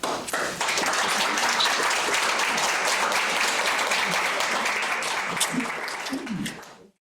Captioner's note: audience applause